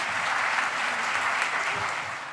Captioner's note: applause